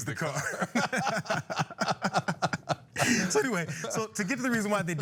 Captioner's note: laugh